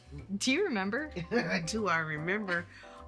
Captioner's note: laughs